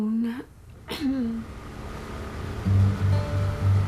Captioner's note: clears her throat; gentle music